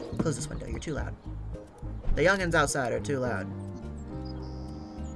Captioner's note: none